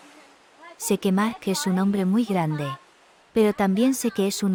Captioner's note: xhosa spoken audio